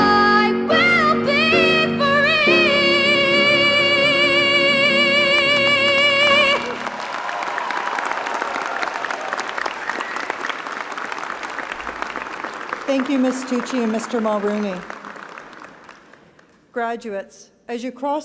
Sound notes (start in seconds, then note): 3.8 applause